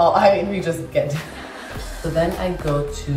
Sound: laughing

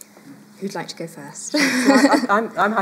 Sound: chuckles

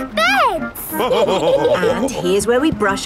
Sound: all laughing

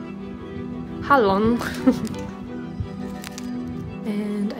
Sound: laughing

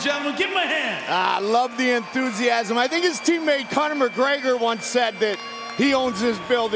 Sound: cheers and applause

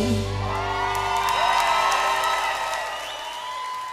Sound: song ends, applause and cheering

